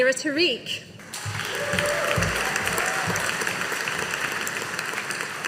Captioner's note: audience applauding